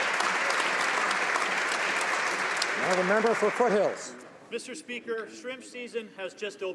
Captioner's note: some Applause